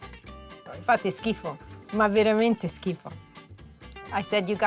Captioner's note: speaking Italian